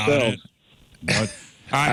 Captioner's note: laughter